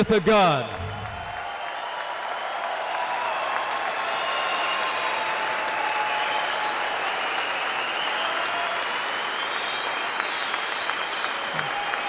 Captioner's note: applause